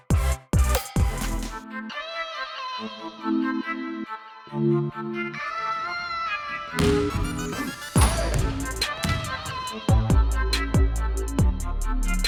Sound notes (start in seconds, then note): 6.7 basketball slamming; 9.4 rap music